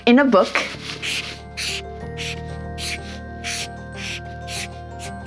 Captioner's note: pen scribbling